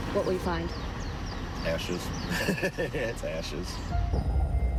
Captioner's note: chuckling